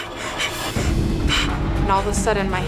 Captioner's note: headboard rattles